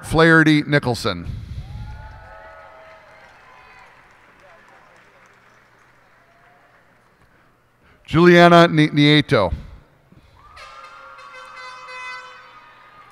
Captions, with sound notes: Margaret Flaherty Nicholson. [cheers and applause] Juliana Nieto. [cheers and applause]